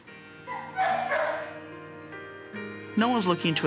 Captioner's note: dogs barking